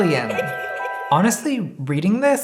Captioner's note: alien giggling